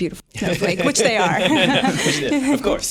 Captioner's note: laughter